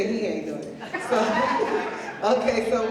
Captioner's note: laughter